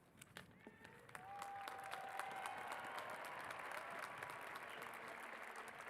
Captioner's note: cheers and applause